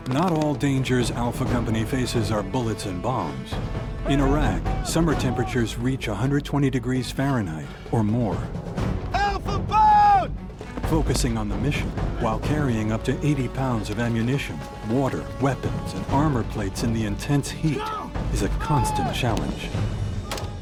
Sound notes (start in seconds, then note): 0.3 voiceover; 11.1 voiceover; 20.4 gunfire